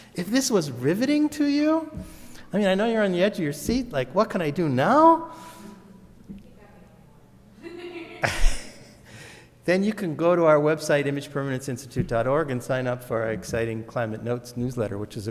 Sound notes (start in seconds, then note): 7.6 laughs; 7.7 audience member laughs